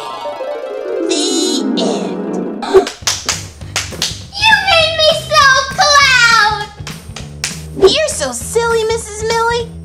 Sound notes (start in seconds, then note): 2.8 clapping